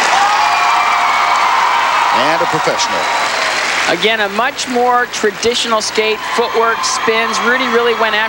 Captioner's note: crowd Cheering